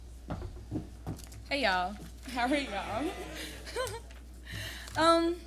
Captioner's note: laughter and murmurs from audience